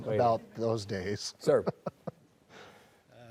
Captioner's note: chuckles